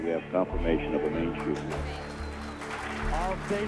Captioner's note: team cheering